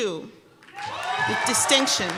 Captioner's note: cheers